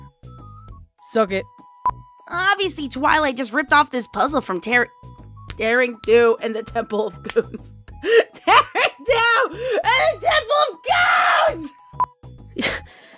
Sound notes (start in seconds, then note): 7.2 slap; 8.1 laughing; 12.4 pained noise? IDK